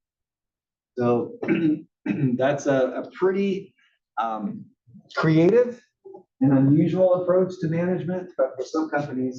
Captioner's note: cough